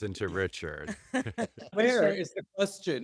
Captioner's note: laughter